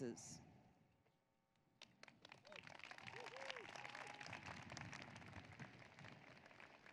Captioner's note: applause